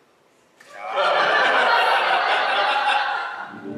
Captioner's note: laughter